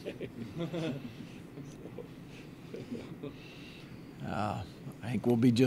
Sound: laughs

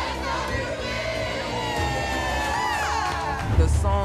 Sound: cheering

